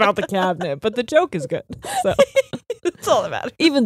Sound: both laughing

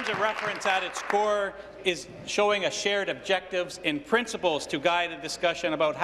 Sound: applause

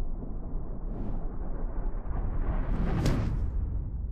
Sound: whooshing

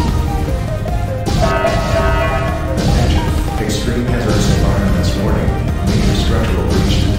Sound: announcement Chime

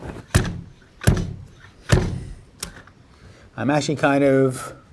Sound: machine thuds

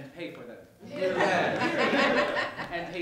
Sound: laughter

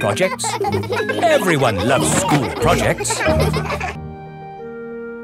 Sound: children laughing

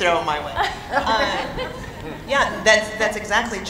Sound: laughing

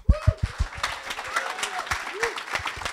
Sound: applause

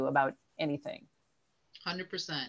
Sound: pause

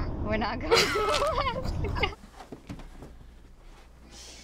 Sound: laughs

